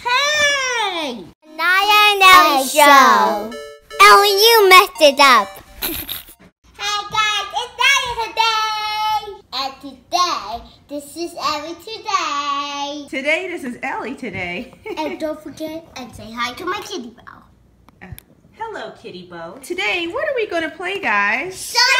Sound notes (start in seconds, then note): 5.8 giggles